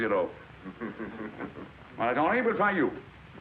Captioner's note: class laughs